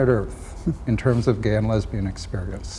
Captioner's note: chuckles